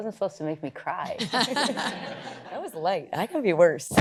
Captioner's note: all laugh